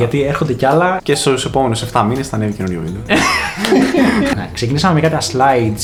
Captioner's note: laughs